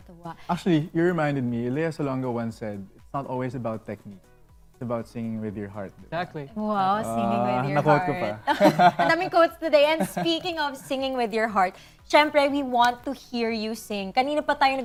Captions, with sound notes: - It was beautiful. - Actually, you reminded me. Lea Salonga once said that it's not always about technique. It's about singing with your heart. - "Singing with your heart..." - I quoted someone. - [LAUGHS] - So many quotes today. Speaking of singing with your heart, of course we want to hear you sing.